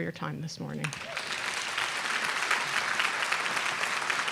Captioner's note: aplause